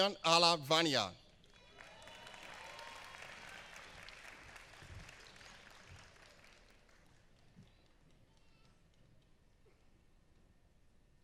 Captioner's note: applause; applause